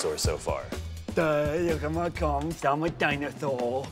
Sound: lisping

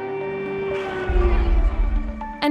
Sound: air raid siren blares

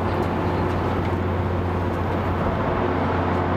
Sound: wind howls

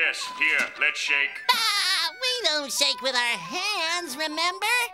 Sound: laughing

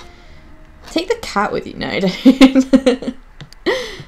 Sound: giggles

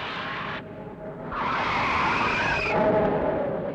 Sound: brakes squeal

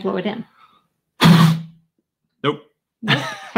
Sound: bottle echos; laughing

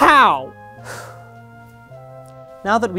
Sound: deep breath

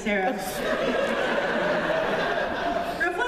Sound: laughter

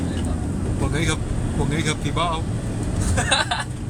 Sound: southern accent

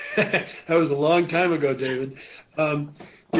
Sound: laughs

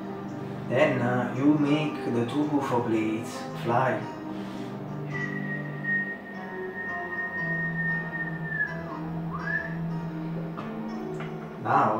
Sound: whistle

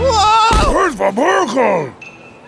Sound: screams; speaking in foreign language

